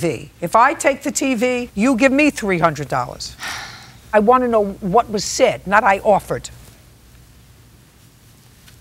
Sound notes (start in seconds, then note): 3.4 sighs